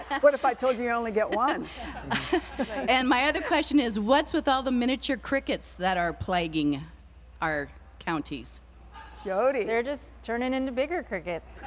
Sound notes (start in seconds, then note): 1.0 laughter